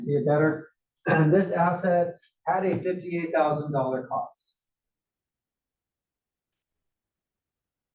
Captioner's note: cough